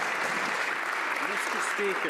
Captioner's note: some Applause